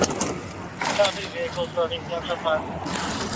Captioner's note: radio chatter